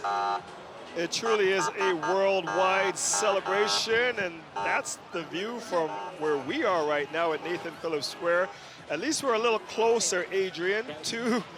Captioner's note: sirens